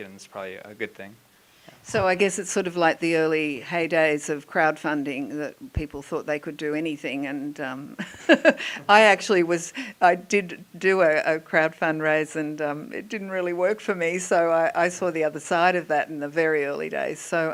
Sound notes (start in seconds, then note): 8.0 laughing